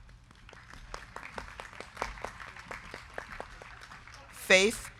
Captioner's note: crowd clapping